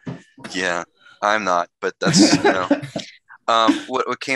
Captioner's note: all laughing